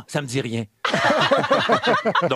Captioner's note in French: rires